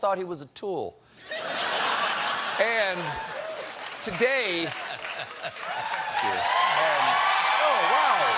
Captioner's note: laughter; cheers and applause